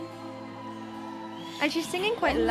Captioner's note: audience cheering